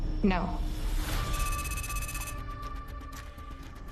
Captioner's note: tense music; text clicking